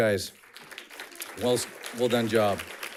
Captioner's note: audience clapping